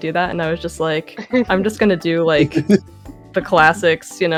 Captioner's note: giggling